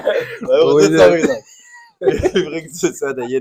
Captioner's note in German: gelächter